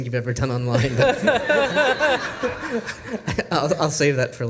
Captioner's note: panel and audience laugh